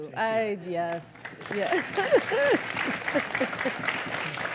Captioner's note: crowd cheering